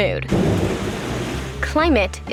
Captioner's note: thunder crashes